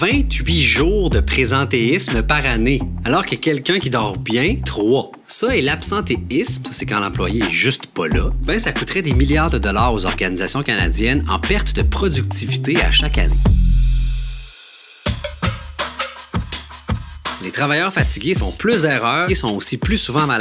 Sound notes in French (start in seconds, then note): none